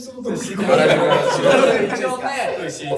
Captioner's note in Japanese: 笑い声